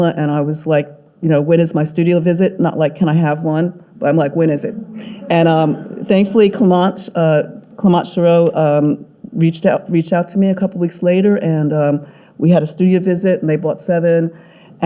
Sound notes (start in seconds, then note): 4.7 audience laughing